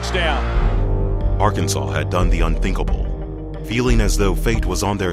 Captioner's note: voiceover